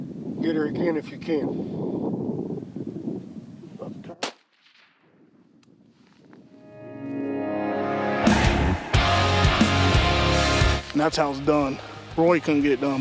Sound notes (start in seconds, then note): 4.2 gun fires; 7.4 rock music